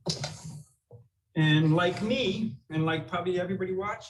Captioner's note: none